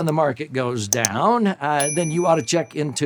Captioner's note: bell chimes